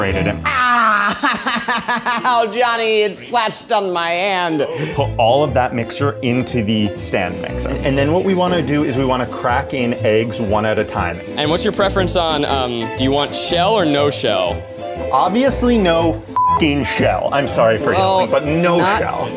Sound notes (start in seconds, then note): 16.3 beeping